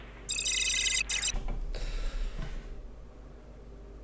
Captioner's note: watch beeping